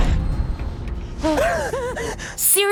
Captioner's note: Dani gasps